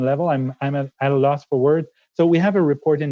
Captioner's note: speaking French